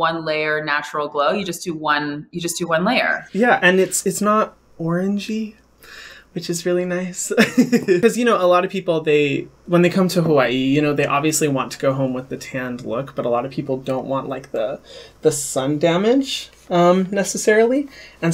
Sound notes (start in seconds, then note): 7.4 laughs